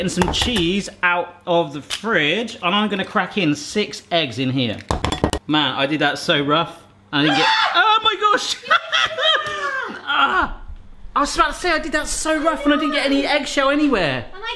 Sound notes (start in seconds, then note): 7.2 screaming; 8.3 laughing